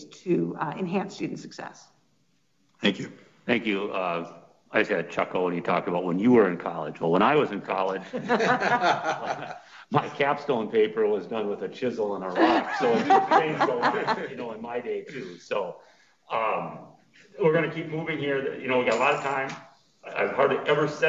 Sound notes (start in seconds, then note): 7.9 several laughing